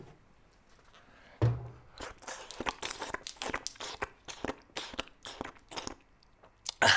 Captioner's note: slurping